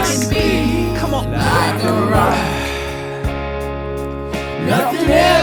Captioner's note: sighs